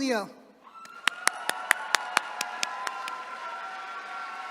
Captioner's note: attendees cheering